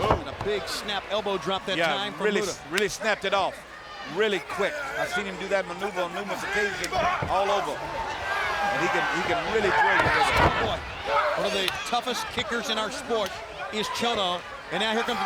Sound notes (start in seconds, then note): 8.2 crowd cheering